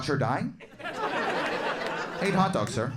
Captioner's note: audience laughing